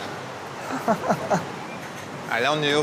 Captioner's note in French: rires